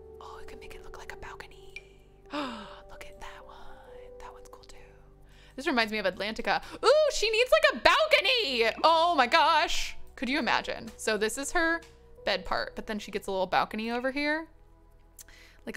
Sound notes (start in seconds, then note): 2.3 gasps